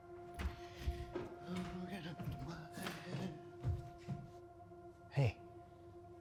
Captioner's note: footsteps thudding